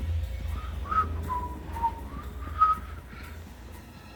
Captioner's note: Alex whistling